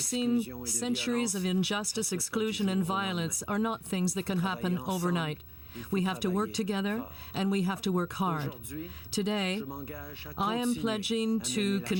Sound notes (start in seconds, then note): 2.0 speaking French